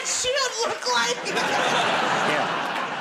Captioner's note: laughter